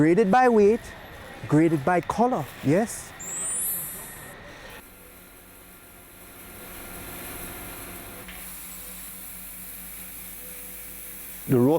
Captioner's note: crystal sound